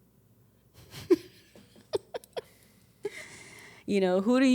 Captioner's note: chuckles